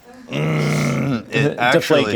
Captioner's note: grunts